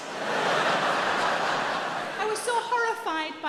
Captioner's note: audience laughing